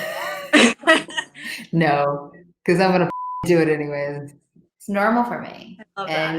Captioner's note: laughs